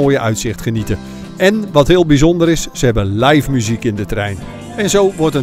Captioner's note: voiceover